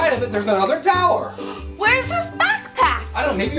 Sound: assistant gasps

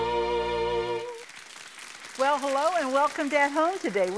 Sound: audience applauds

